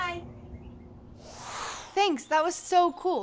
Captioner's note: air whooshing